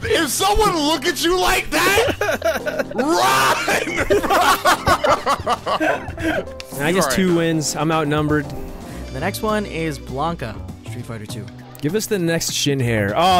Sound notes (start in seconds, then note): 4.1 group laughing